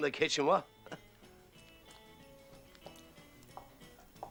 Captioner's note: Sin diálogo audible